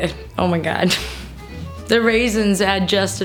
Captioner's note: laughs